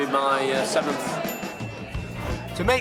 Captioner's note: ding